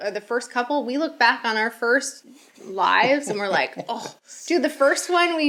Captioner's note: sighs